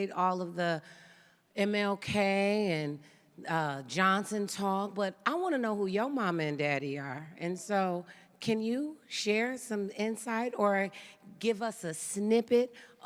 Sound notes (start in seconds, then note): none